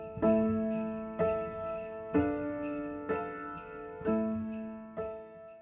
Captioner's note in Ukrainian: дзвін